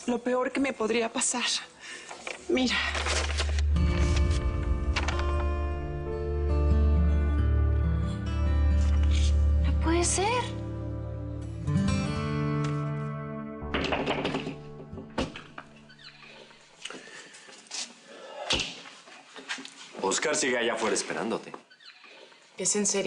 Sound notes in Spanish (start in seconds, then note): 14.0 Llaman a la puerta